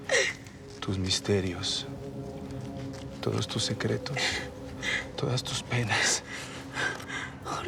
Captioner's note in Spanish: Sollozos